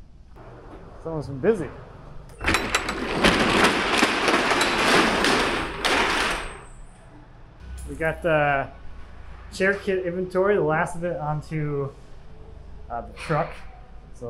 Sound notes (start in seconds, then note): 2.3 door rattles open